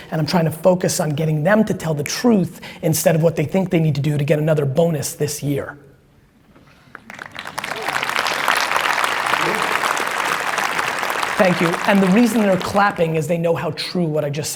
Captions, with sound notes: And I'm trying to focus on getting them to tell the truth instead of what they think they need to do to get another bonus this year. (audience clapping) Thank you. And the reason they are clapping is they know how so true